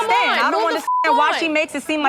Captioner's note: beep